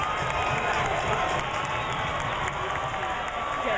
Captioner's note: cheering